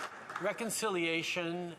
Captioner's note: some Applause